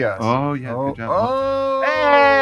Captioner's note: exclaiming